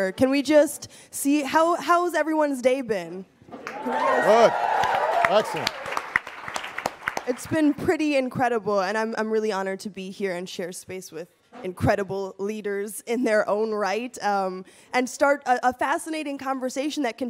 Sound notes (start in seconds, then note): 3.6 audience cheering